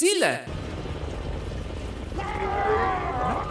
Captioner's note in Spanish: Gritos por eliminación